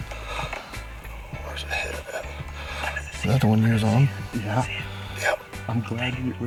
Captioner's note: whispering